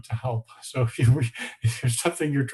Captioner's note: laughing